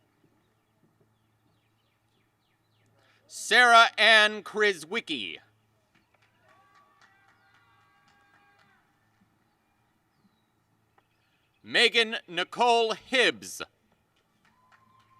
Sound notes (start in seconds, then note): 0.2 applause and cheering; 14.4 applause